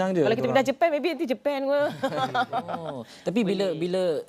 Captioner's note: laugh